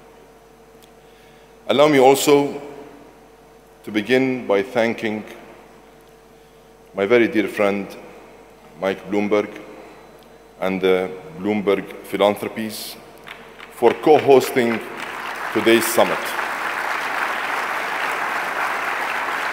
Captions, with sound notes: Allow me also to begin by thanking my very dear friend, Mike Bloomberg and Bloomberg Philanthropies (audience clapping hands) for co-hosting today's summit.